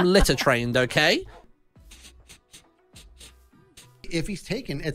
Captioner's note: sniffing